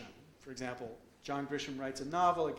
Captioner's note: none